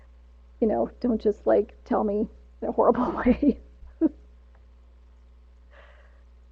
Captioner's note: laughs